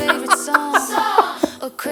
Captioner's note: laughs